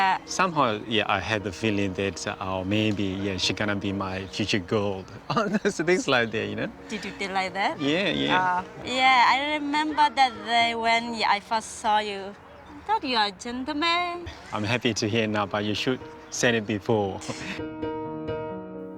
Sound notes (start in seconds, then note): 13.0 speaking in foreign language; 17.2 chuckles